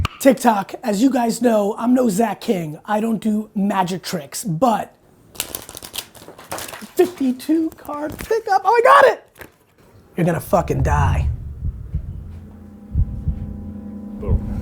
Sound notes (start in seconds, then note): 5.3 cards shuffling; 12.0 ominous music